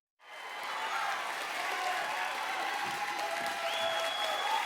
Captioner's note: audience applauding